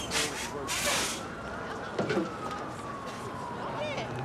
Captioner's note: sirens blaring